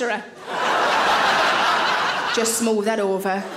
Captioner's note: audience laughing